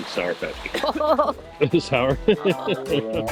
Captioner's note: chuckles